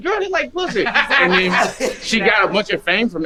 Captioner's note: man laughing